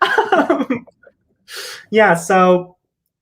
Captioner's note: laughs